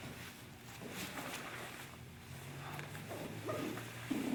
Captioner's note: soft shuffling